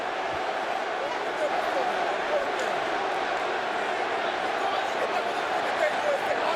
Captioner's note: Rusev speaking in Russian continues